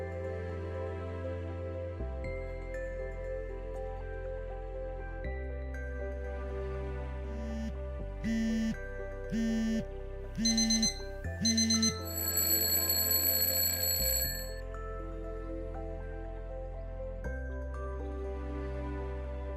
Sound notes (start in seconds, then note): 9.3 phone vibrating; 10.4 alarm ringing